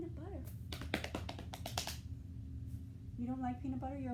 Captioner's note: clapping